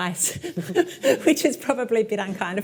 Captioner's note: laughs